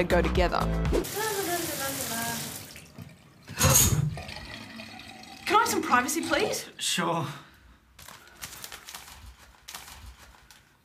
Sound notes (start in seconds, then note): 0.3 woman sings merrily; 3.0 gasps